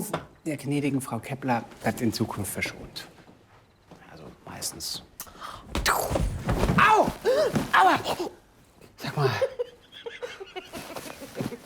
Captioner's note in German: gelächter